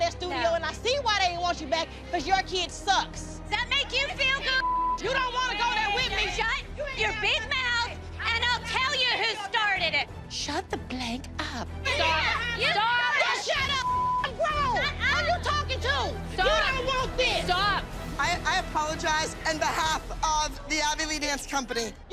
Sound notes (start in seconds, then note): 11.8 overlapping shouting; 16.1 shouting